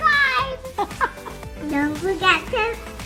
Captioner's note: Adrienne laughs